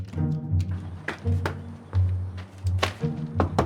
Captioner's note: footsteps approaching; birds chirping; knocking